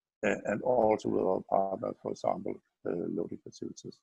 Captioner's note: murmurs